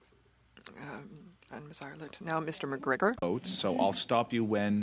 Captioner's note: speaking French